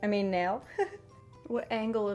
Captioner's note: chuckles